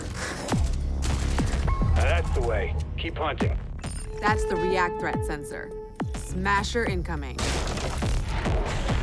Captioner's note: sound of gunfire